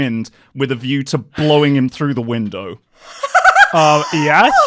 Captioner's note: laughter